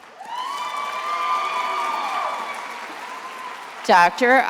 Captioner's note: attendees applauding and cheering